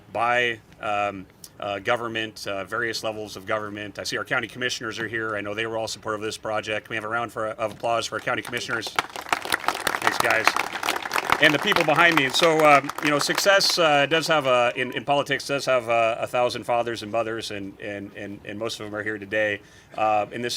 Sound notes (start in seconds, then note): 8.2 congregation applaud